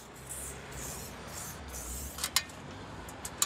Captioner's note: traffic rushing, ladder clattering